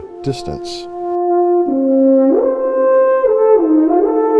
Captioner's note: horn blowing